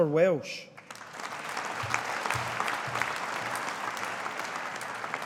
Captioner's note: audience applauding